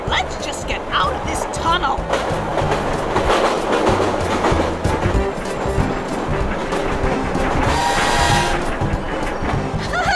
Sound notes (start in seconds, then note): 2.3 train clacking; 5.2 upbeat music; 7.4 train whistles